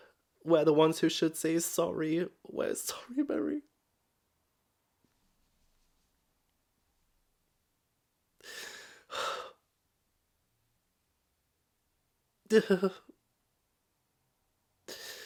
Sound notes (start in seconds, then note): 4.4 crying tears of utter pain